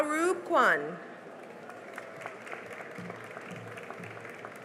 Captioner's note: cheering and applause